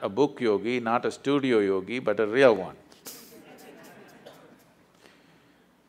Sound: laughter

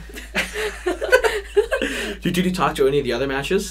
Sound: both laughing

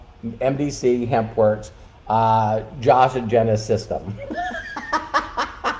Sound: laughing

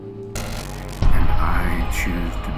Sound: electrical fizzling

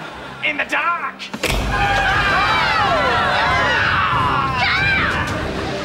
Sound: screaming

